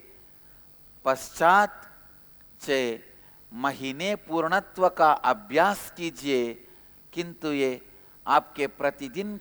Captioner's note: hindi